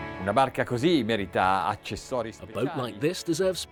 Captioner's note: speaking in foreign language